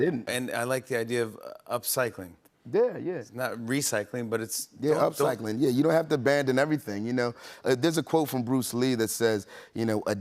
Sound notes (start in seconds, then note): none